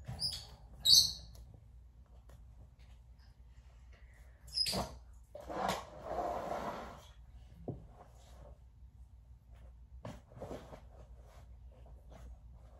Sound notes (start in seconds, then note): 5.7 bird chirping